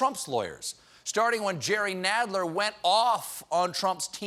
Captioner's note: none